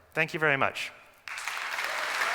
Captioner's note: applause